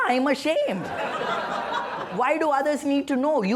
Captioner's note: laughter